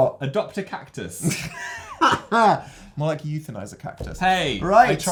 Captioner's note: laughs